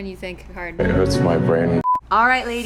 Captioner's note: beep